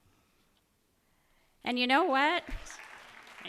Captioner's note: applause